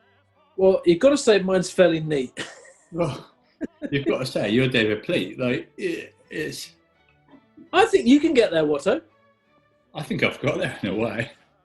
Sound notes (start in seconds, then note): 3.6 chuckling